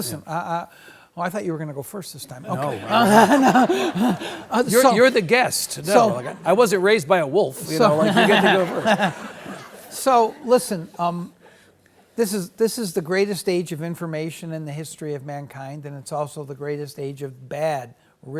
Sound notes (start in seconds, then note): 2.4 audience laughs; 2.4 laughs; 7.6 laughs; 7.6 audience laughs